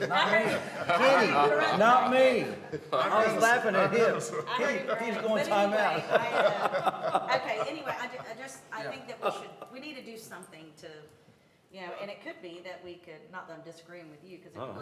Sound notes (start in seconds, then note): 2.0 laughter